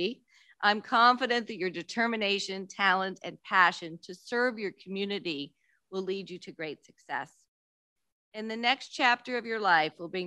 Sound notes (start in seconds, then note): none